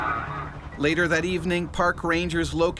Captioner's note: voiceover